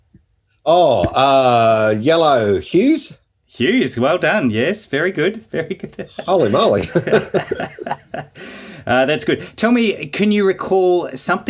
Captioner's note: both laughing